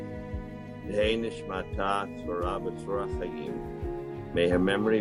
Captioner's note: in Hebrew